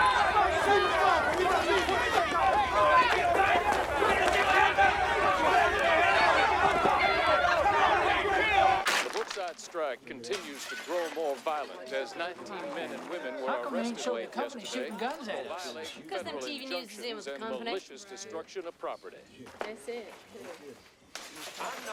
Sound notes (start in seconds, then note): 3.4 siren wailing